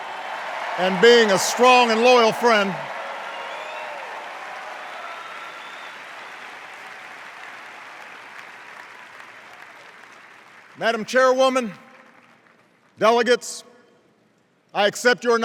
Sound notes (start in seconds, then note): 4.6 cheers and applause